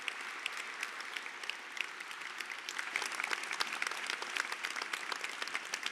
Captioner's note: applause